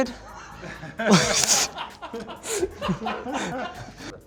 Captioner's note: laughing